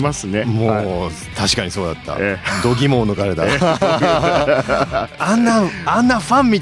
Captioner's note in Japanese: 笑い